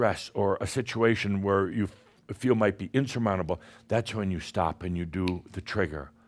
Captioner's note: snap!